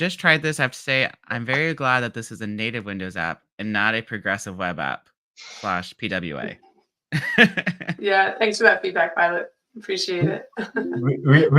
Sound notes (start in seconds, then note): 7.2 laughs